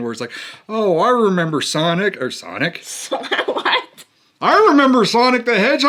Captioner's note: laughs